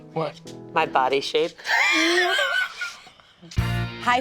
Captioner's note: snickers